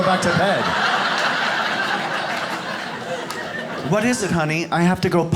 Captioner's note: audience laughs